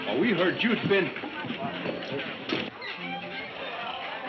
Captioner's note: people chattering